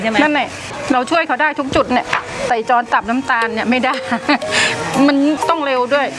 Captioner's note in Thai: เสียงหัวเราะ